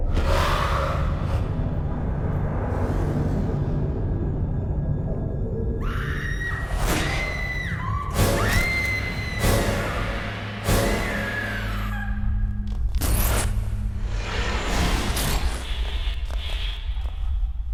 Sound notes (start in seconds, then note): 5.8 screaming sound